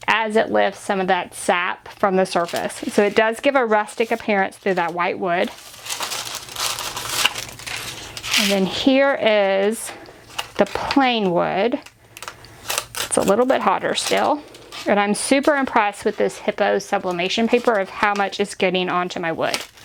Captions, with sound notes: as it lifts some of that sap from the surface. So it does give a rustic appearance through that white wood. (paper crumpling) And then here is the plain wood. It's a little bit hotter still, and I'm super impressed with this Hiipoo Sublimation Paper of how much it's getting onto my wood.